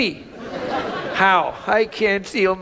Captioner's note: audience laughs